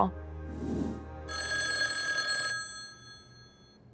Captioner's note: phone rings